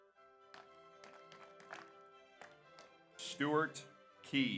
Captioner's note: audience applauds